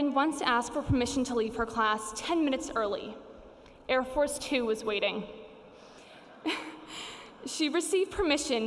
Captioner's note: laughs